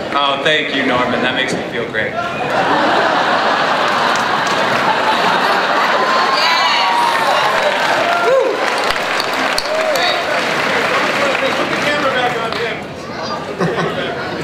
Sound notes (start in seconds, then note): 2.3 audience laughs; 7.2 audience applauds